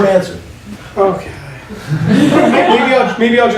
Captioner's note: laughing; laughing